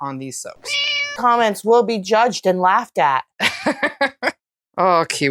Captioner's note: meow